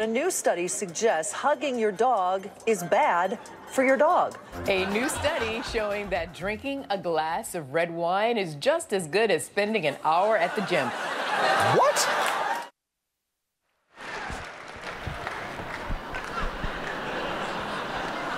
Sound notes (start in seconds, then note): 10.1 audience laughing; 14.0 audience laughs